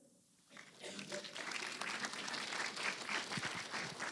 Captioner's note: applause